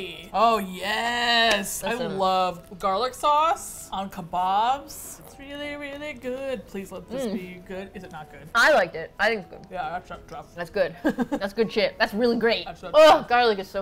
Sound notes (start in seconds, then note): 5.2 singsong; 8.1 mouth full